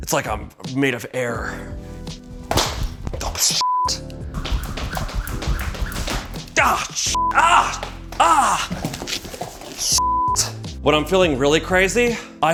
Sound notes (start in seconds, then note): 2.2 rope hitting bag; 4.3 rope twirling